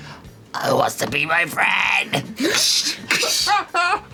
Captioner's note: snaps claws